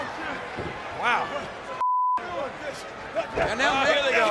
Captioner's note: beeps